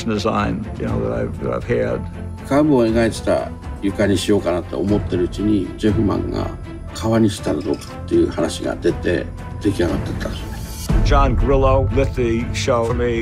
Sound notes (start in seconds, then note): 2.0 speaking in japanese